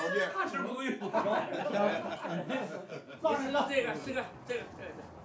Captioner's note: men laughing